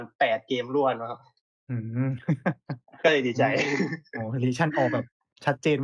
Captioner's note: laughs